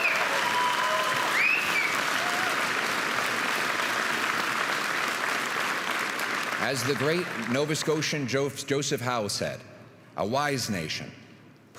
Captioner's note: applause and cheering